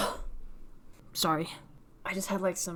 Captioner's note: cough